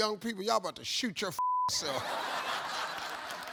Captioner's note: beep; audience laughs and applauds